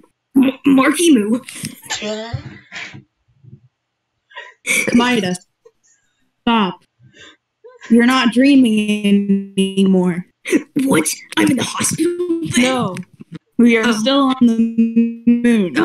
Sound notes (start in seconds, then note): 2.2 wheeze; 4.8 small laugh; 8.1 glitching